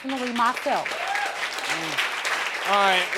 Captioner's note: audience cheering